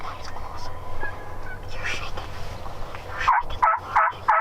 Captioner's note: bird squawks; hunters whispering; birds squawking